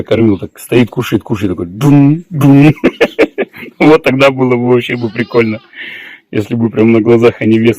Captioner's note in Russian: смех